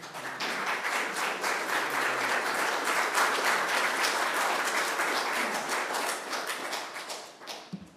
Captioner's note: applause